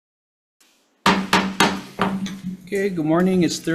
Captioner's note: gavel pounds